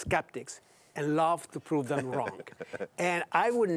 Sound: laughs

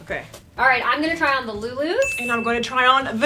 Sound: ding

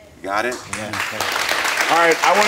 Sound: audience applauds

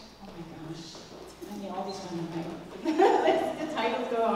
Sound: laugh

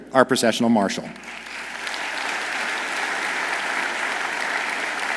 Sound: audience applauds

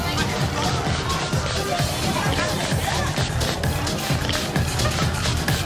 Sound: Snooki spritzing perfume

